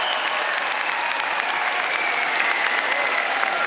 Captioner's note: applause